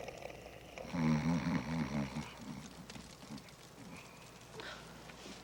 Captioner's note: Jebadiah snoring